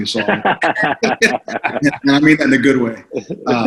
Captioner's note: laughs